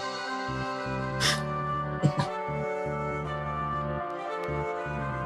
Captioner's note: chuckles